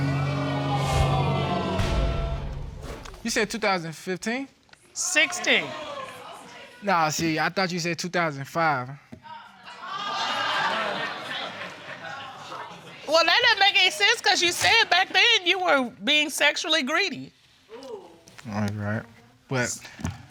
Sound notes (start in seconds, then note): 11.0 crowd clapping